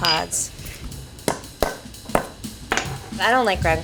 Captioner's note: metal pounding; quirky jazz music